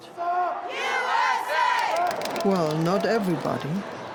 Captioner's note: chanting